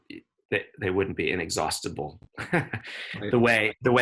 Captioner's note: chuckles